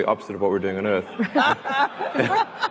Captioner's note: laughing